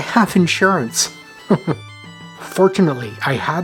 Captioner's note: chuckles